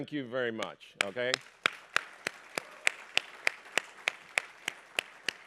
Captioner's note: applause